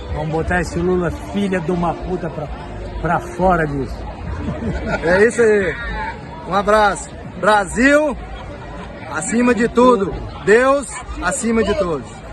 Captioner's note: speaking in Portuguese